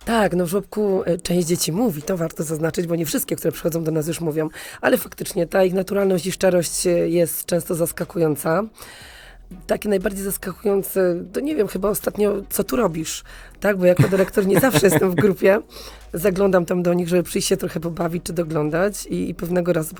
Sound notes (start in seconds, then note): 14.0 śmiech